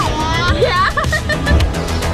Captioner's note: laughs; upbeat music